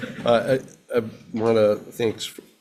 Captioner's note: people laughing